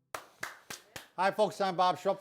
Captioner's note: clapping